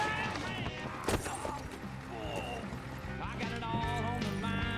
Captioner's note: glass shatters